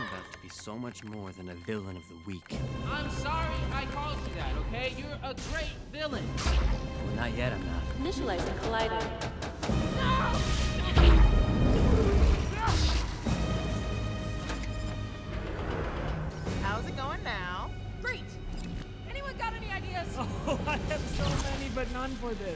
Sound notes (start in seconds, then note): 8.3 automated voice; 11.2 suspenseful music playing; 14.4 beeping; 14.4 whirring